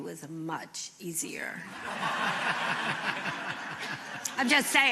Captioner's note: laughter